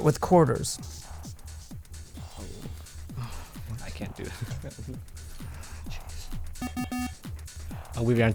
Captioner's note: wispering